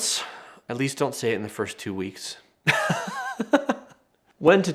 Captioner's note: laughing